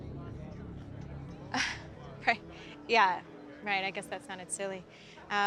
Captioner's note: laughs